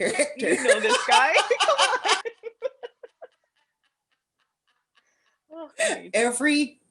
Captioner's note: laughter